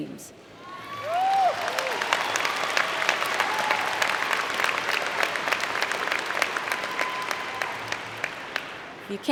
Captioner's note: applause & Cheer